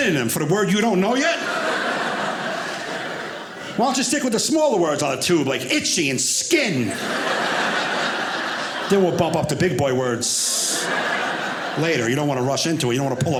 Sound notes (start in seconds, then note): 1.0 audience laughing